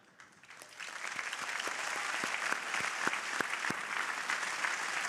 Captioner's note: crowd applauding